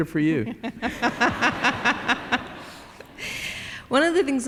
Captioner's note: laughter